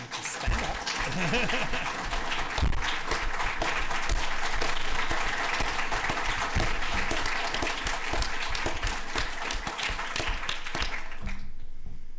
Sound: applause

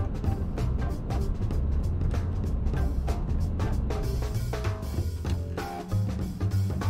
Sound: engine rumbling; gentle music

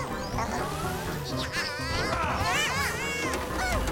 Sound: Bongolalas shouting

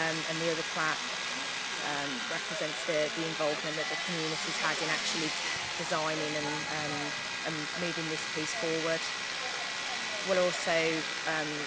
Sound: drilling noise

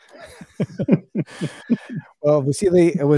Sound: laughing

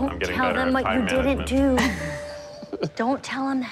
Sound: laughter

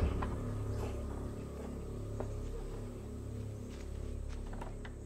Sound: thunder rolling; birds chirping

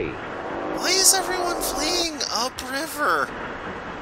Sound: kid voice

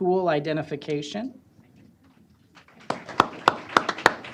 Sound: applause

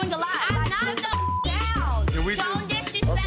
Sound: beep

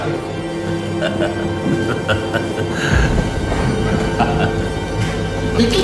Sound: laughter

